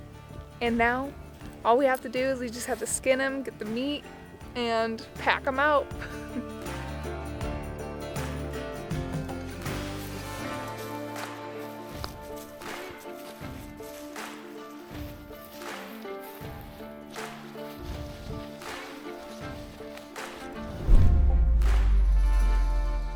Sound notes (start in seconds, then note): 6.0 soft music; 7.6 footsteps thudding; 20.7 wind whooshing